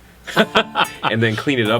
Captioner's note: laughter